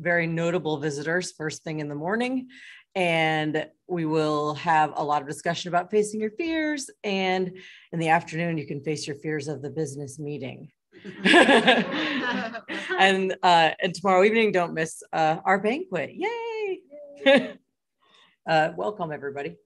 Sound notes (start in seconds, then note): 11.0 laughter